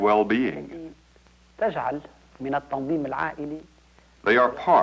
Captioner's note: speaking Arabic